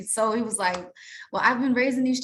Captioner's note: hands smack